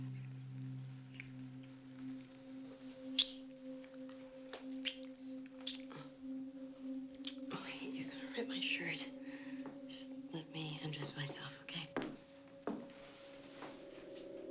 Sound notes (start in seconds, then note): none